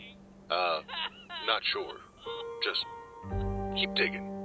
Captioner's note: sobbing